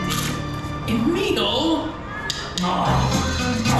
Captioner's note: groans